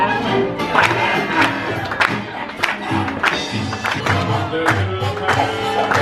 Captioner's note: upbeat music continues; rhythmic clapping continues